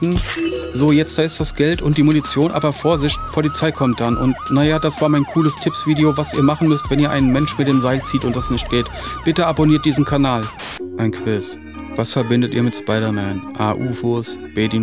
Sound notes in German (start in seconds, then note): 10.6 Rauschen